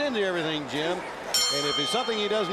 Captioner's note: bell ringing